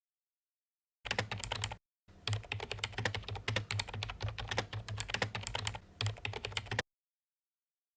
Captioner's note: typing